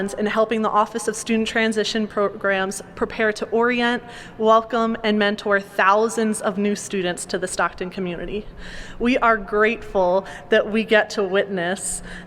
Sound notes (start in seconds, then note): none